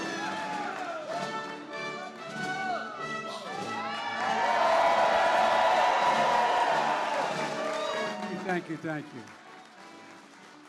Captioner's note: applause